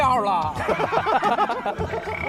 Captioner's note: hahahaha